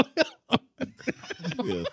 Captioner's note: laughing